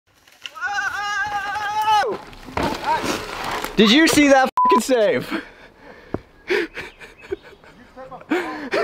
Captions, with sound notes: (screams) - Did you see that (beep) save? (laughs)